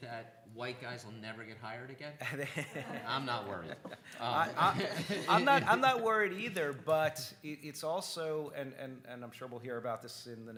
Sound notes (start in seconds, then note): 2.2 laughing